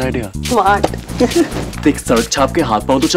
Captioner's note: Chuckles